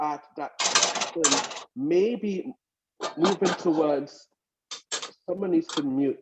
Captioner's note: clanging, unintelligible loud noises